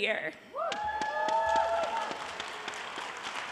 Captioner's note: audience cheering